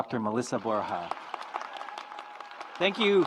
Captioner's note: audience applauds